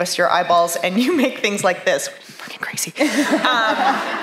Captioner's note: whispers